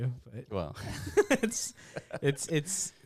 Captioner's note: laughs